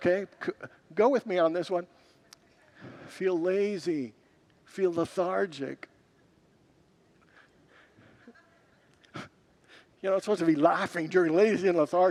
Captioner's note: congregants laugh